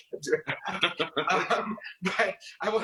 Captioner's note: both laugh